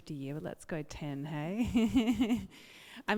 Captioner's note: laughs